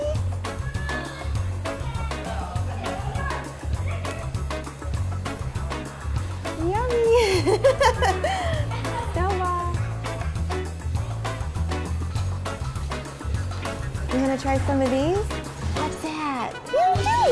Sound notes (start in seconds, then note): 0.3 jazz music; 7.0 laughing